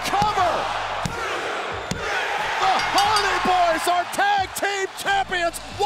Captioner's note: applause